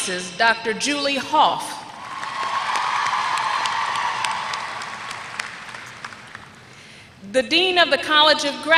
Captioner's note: applause